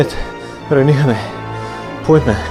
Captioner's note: foreign language